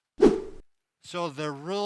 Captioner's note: whoosh